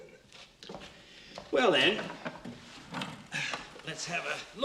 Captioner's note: sighs